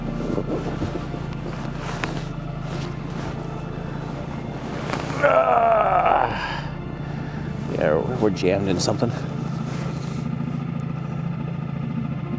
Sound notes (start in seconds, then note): 4.2 grunting; 9.4 motor burbling